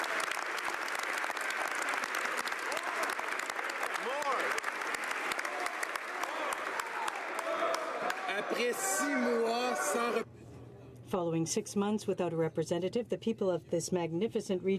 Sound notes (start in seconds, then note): 0.0 some Applause